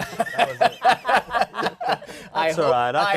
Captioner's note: laughter